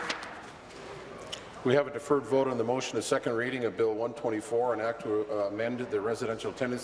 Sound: applause

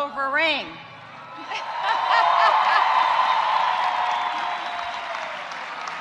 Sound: audience cheering and applauding

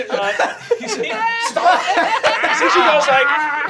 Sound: laughing

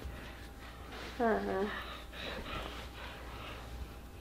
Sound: heavy breathing

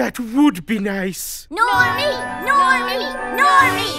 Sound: chanting

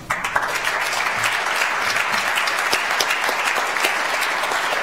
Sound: audience applauds

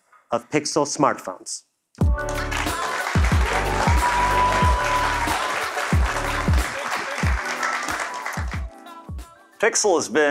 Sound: applause

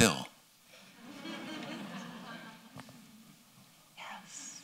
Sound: laughter

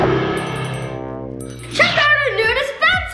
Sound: musical flourish; bell rings

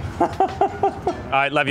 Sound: laughing

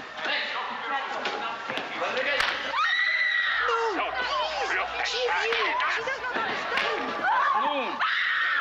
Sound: frenzied yelling in the distance; loud screaming

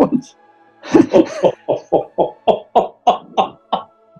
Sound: laughter

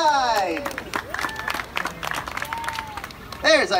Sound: audience claps

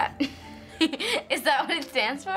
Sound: laughter

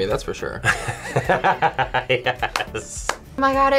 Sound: laughs

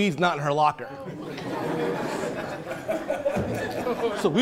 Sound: laughing

